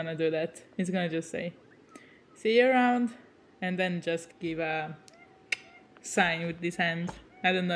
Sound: clicks with his tongue

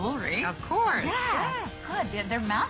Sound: foreign language

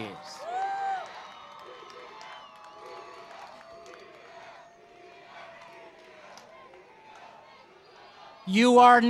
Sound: cheering and Applause

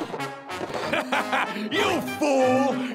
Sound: laughing

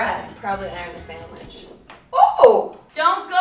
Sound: water spilling

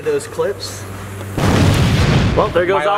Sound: explosion

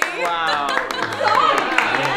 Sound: applause

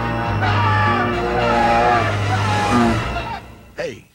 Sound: screaming, then growling

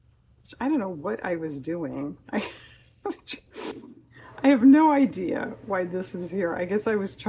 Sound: laughs

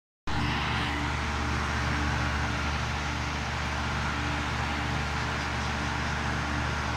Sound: air conditoner running

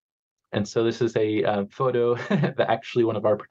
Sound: chuckles

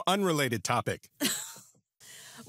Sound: laughs

